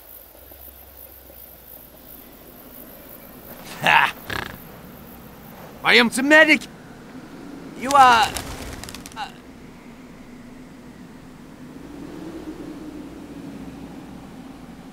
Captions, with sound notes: Hah! *Snort* I am ze medic. You are... uh.